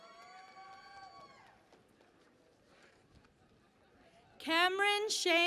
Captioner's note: cheering and Applause